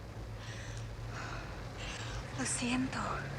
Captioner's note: breathes heavily